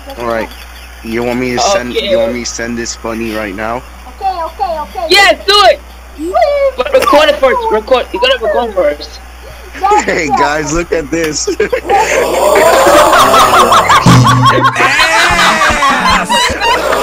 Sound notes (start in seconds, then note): 11.3 laughter starting; 11.4 laughter, buzzer; 16.6 laughter continues, video repeats